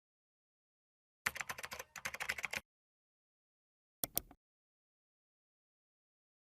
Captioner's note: keyboard keys clicking; mouse clicking